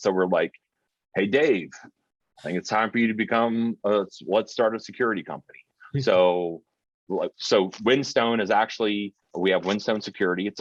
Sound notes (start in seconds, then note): 6.0 chuckling